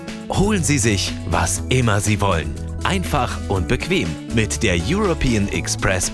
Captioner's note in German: none